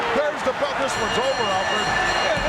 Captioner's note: bell ringing